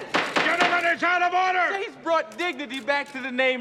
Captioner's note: gavel Pounding